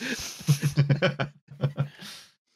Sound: slight laughter

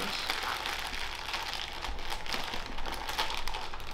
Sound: bag crinkling

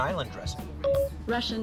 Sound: phone beep

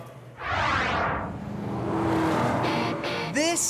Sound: whooshing sound; rock music

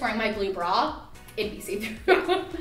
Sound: laughing

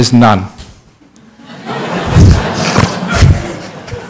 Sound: laughter

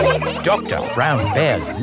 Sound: all laughing

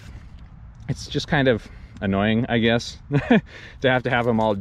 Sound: laughs

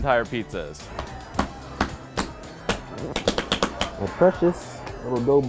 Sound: smacking

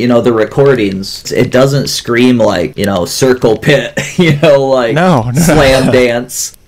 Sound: laughs

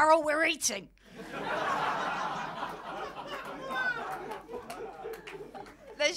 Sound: laughter

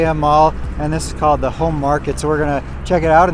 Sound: none

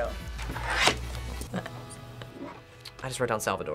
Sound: laughs

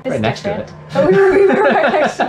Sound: both laugh

